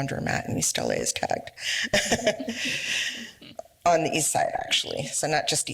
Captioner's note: laughs